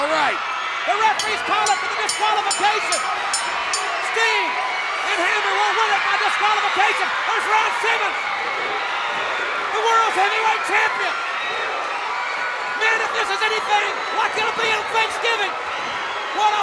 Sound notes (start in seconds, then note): 3.1 bell ringing